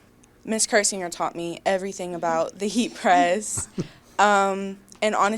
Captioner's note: interviewer chuckles